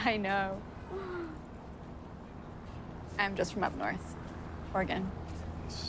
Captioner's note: laughs